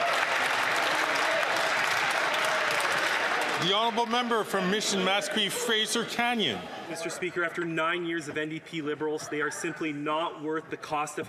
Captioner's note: some Applause